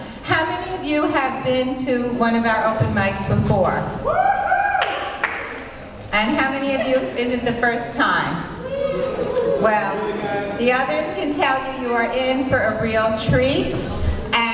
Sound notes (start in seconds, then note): 4.0 cheers; 8.6 light cheers